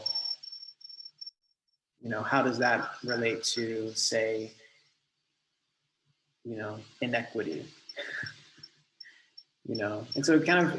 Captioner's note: laughs